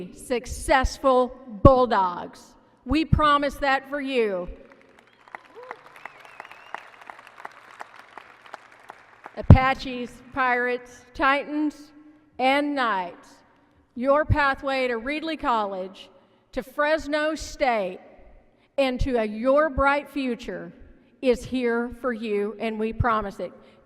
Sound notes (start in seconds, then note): 4.6 applause